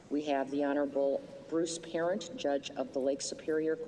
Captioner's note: none